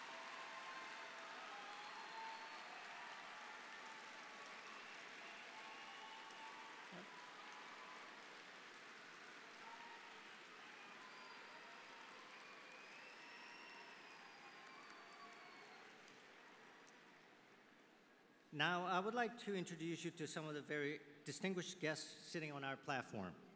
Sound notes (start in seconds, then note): 4.5 applause